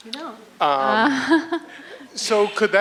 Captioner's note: laughs